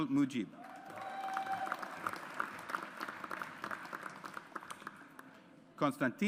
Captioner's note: audience applauds